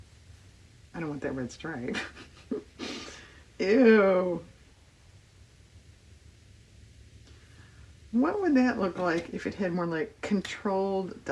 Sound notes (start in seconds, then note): 5.8 laughs